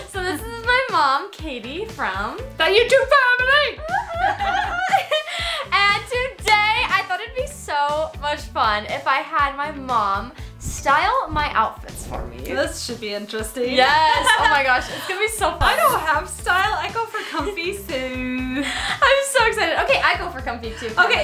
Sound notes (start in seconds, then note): 3.8 giggles